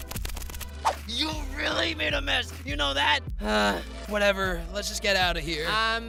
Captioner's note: sigh